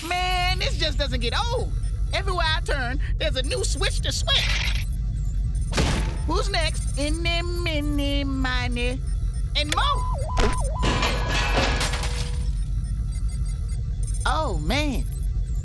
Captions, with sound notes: MAN, THIS JUST DOESN'T GET OLD! EVERYWHERE I TURN, THERE'S A NEW SWITCH TO SWITCH. (hatch slams) WHO'S NEXT? EENY, MEENY, MINY... AND MOE! (robot beeping) (clanging) OH, MAN.